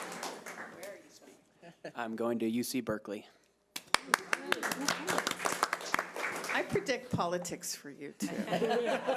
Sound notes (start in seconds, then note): 3.8 audience applause